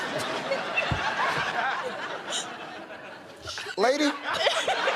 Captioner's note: laughter